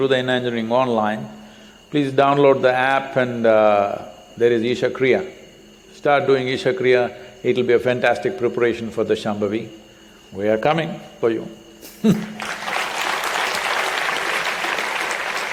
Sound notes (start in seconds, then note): 11.8 laughs; 12.2 applause